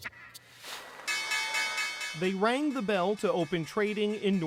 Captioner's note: bells